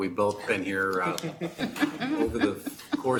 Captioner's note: board members laughing